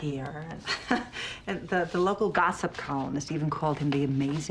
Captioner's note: laughs